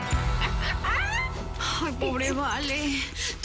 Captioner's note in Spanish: Risas